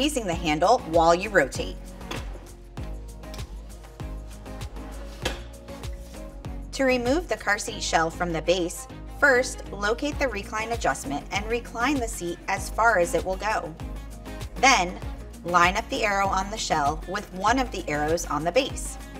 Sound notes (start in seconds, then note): 1.9 upbeat music; 5.2 car seat snapping; 18.9 upbeat music